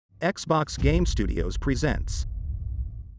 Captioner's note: dramatic sound